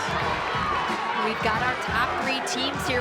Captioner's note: crowd cheering